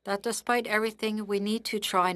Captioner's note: speaking French